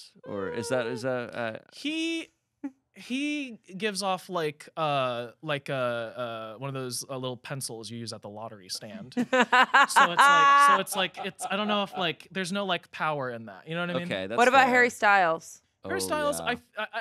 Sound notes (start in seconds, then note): 9.1 laughing